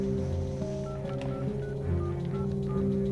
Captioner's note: dialing telephone